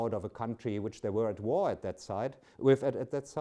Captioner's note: speaks German